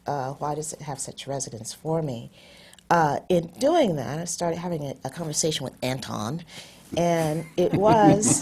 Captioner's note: laughter